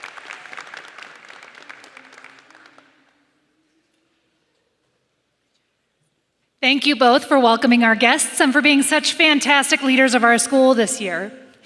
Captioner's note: applause